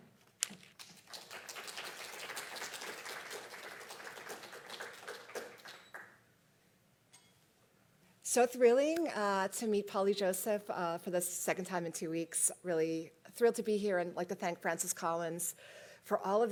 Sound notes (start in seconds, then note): 3.2 applause